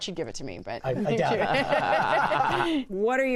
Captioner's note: laughter